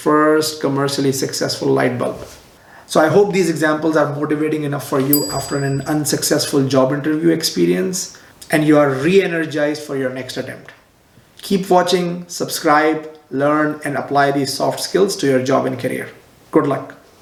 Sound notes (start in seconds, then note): 5.1 bell rings